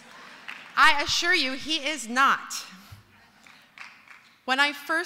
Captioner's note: applause